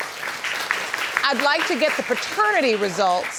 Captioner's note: audience clapping